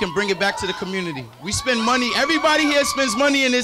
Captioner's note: crowd cheering